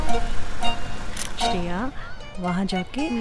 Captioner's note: Camera clicking